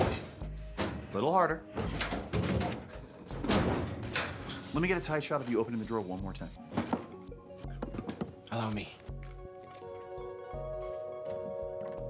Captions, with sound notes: Little harder. (cabinet rattling) Lemme get a tight shot of you opening the drawer one more time. (bright music) - Allow me.